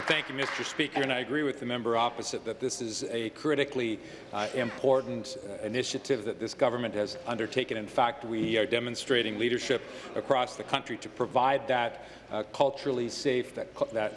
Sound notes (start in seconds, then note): 1.6 applause